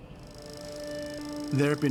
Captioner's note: film reel whirring